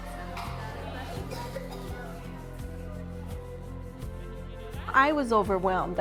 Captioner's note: gentle music; children chattering